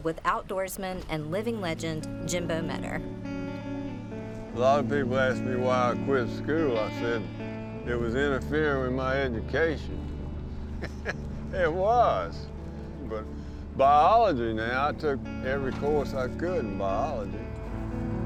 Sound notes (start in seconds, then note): 3.4 gentle music; 10.6 laughs; 18.0 gentle music continues